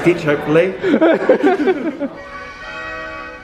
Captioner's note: laughing